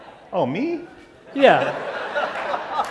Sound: laughter

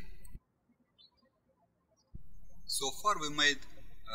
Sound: birds chirping

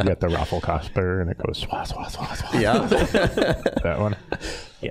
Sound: all laughing; all laughing

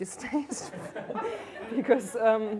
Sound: laughter

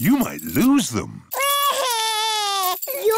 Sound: crying

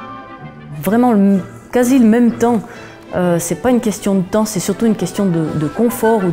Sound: speaking in a foreign language

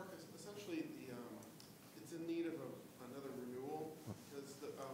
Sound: man speaking off mic

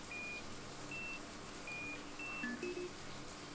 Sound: container beeps

